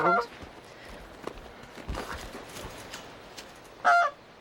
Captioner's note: goose quacks